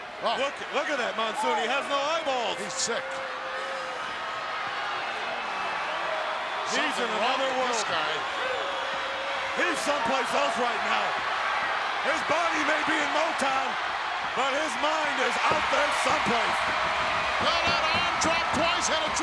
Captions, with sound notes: Look at that, Monsoon. He has no eyeballs. He's sick. He's in another world. He's someplace else right now. His body may be in Motown, but his mind is out there someplace. (crowd cheers) Well that arm dropped twice,